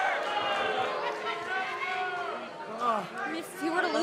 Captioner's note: cheers & boos